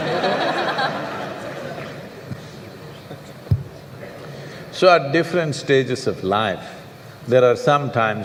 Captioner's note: laughter